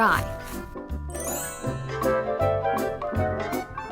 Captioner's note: tinkling